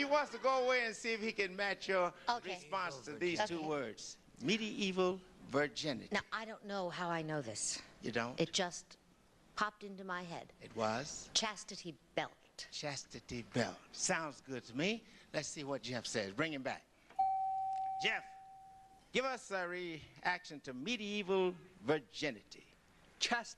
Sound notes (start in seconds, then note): 17.2 beep